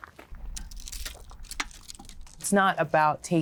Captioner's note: stick scratching